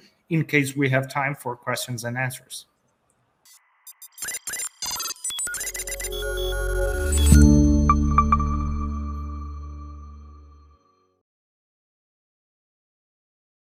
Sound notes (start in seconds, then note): 3.5 light music; 3.8 device whirring